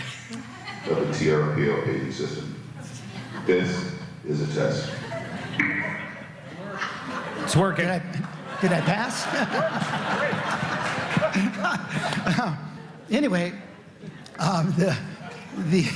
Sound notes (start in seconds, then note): 9.6 laughter; 13.5 laughter